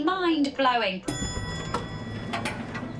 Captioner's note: ding!